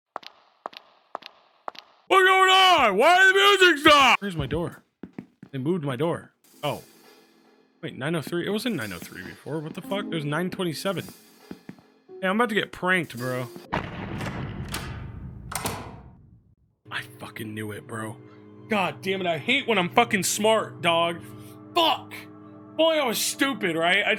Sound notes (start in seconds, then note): 0.1 heels clacking; 15.4 door clicks